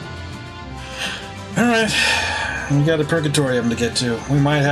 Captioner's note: sighing